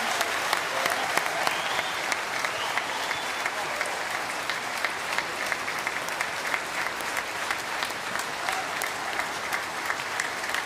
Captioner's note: applause